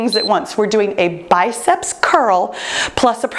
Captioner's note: timer beeps